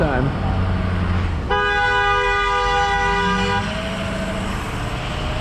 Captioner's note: honnnnnnk!!